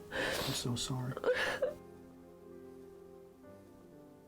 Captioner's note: Julie sobs